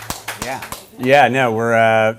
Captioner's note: applause